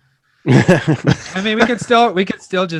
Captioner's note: hosts laughing